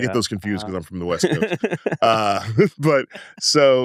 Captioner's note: laughs